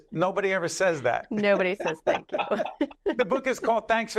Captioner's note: laughs